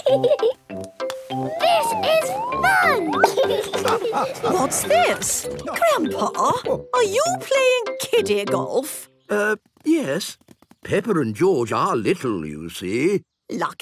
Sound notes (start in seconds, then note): 1.5 laughing